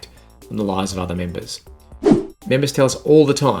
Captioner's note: scene change whooshing